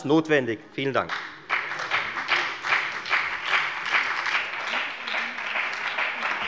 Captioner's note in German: Beifall bei der FDP und bei Abgeordneten der SPD